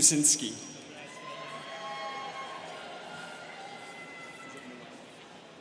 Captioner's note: students cheering